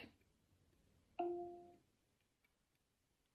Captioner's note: device chimes